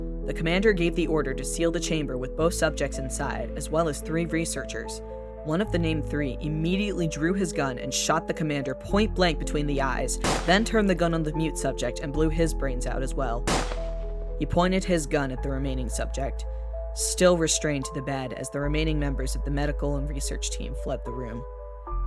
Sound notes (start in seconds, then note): 10.2 gunshot; 13.4 gunshot